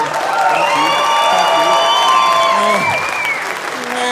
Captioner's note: audience cheering; imitating moose crying